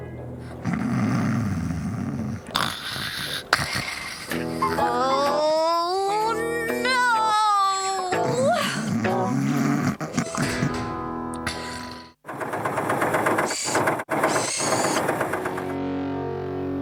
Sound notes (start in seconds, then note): 0.4 snoring; 12.2 engine Running